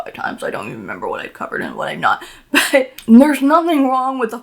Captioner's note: laughs